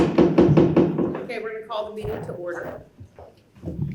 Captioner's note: gavel thuds